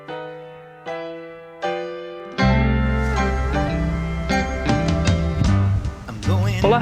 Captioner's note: wind blowing